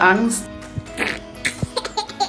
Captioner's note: funny noise; laughing